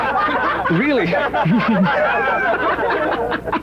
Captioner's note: laughs